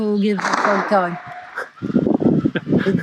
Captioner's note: gunshot fires; interviewer chuckles